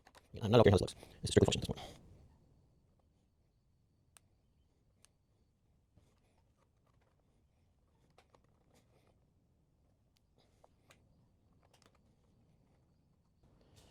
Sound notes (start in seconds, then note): 1.7 silence